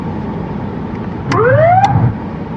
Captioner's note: wararningng s sirene